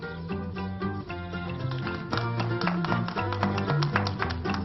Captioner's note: people in the street applause